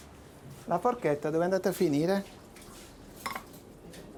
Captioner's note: speaking Italian